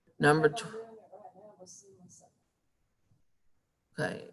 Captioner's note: speaking faintly